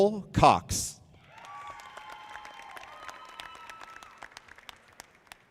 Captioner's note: audience applauding